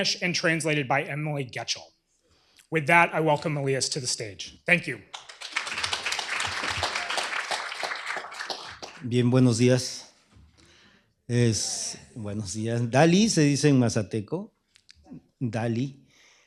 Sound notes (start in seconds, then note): 5.0 applause; 10.7 speaking spanish